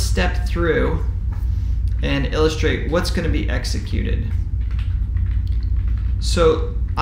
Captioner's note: keyboard typing sound